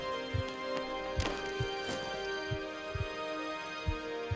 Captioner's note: body thuds